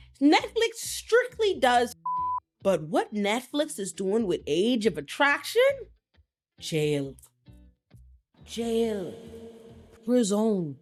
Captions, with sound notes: Netflix strictly does (beep) but what Netflix is doing with Age of Attraction? Jail, jail, prison.